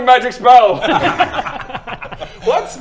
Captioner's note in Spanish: risa dudosa